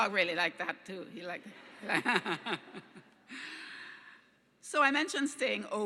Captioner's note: laughing